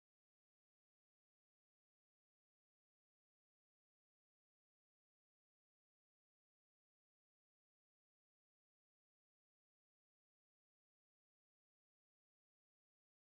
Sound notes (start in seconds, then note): none